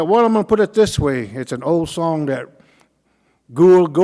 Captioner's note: speaking Cauijoga